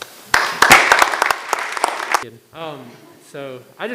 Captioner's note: members clapping